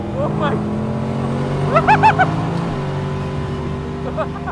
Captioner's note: car engine revving